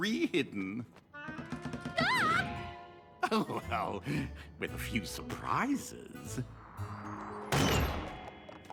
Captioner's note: chuckles